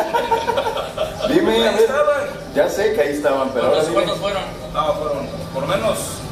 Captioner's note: laughter